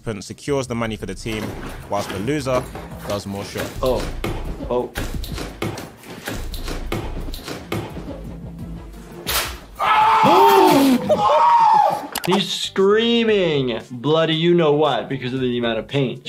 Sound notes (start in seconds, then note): 5.7 players stomping; 9.3 cord snapping; 10.2 player shouting